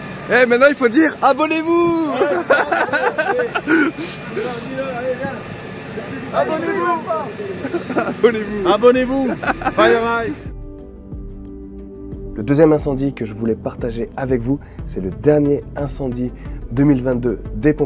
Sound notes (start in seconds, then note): 9.0 laughs